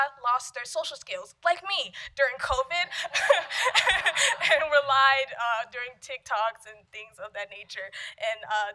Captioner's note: laughter